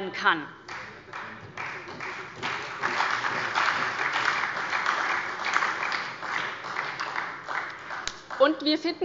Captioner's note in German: Beifall bei der SPD